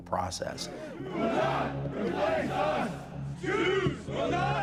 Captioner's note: crowd